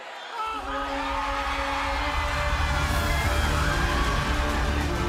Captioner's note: crowd cheering